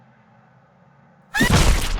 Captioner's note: scream of abject horror, before her crushing death